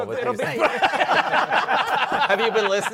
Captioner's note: laughter